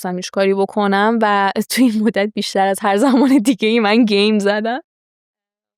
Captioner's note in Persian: خنده